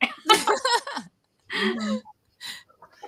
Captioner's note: laughter